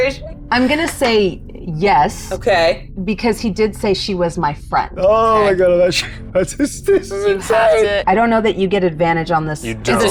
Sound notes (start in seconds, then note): 6.3 chuckles